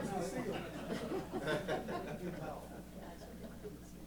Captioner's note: laughter